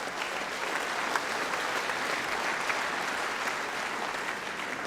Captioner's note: applause